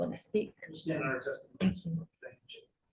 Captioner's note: radio interference drowns out speaker